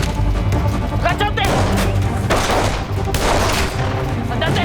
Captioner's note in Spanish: Disparos